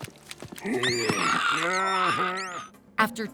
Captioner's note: cheering